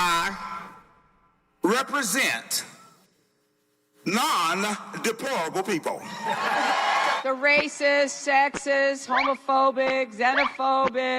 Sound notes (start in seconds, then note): 6.2 cheering